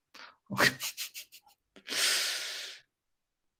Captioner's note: laughs